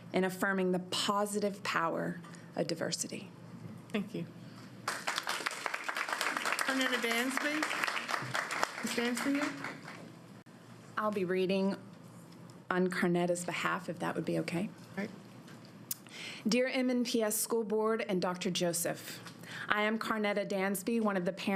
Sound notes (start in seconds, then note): 10.5 applause